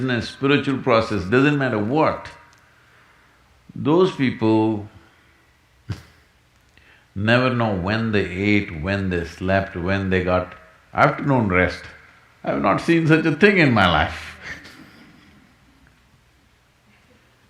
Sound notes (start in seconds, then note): 5.6 laughs; 14.3 laughs